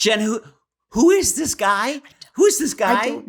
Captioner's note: whispering